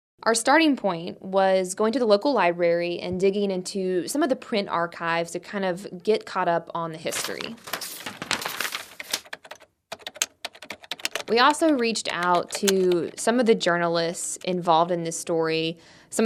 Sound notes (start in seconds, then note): 7.1 papers shuffling; 9.9 computer keys clacking